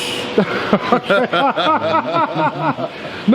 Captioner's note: laughing